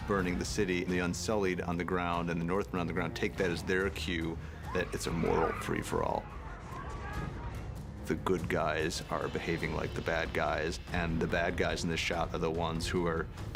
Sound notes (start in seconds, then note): 5.7 woman screams